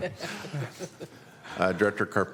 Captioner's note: laughter